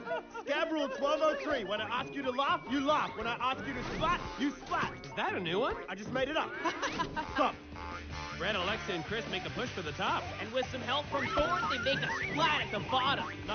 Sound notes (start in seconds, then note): 0.0 laughs; 6.5 laughs